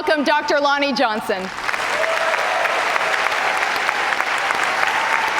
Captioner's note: cheers and applause